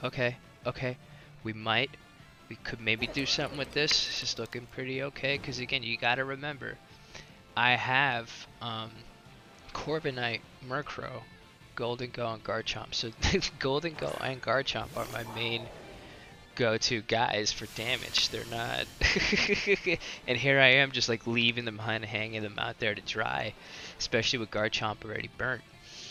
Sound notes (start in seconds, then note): 14.0 snerks; 19.3 laughs